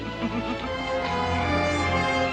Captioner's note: chuckles